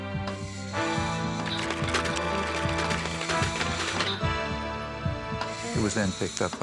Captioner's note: dramatic music; tools clicking